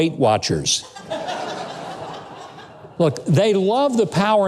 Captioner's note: laughing